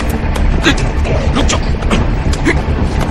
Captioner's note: both grunting